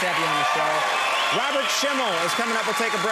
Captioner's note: applause